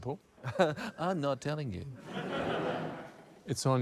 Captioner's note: laughter; laughs